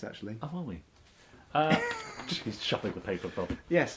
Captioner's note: laughs